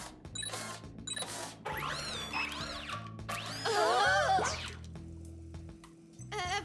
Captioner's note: beep beep beep